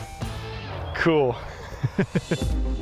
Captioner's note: laughs